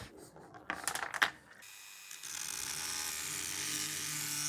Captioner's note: dremel noise